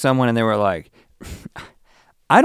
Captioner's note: sighing